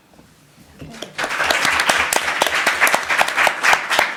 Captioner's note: applause